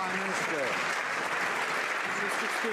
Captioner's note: some Applause